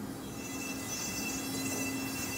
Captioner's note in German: Leise Bohrgeräusche